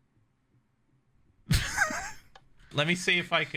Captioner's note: laughing